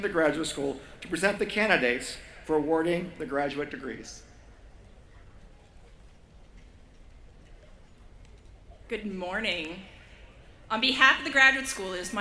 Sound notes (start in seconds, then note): none